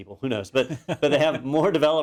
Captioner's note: laugh